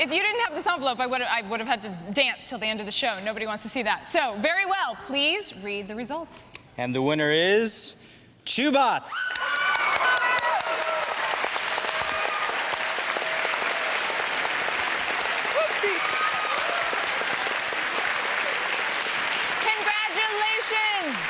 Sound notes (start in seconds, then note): 9.2 cheering and applause